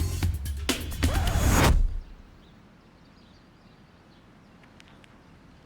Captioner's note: upbeat dramatic music; record scratches